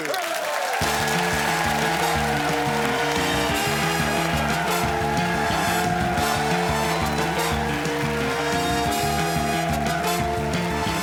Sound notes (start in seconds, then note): 2.3 cheers and applause; 4.2 theme music playing